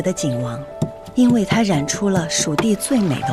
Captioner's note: grinding and mixing